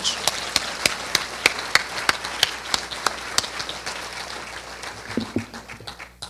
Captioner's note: applause